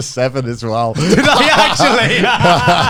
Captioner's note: all laughs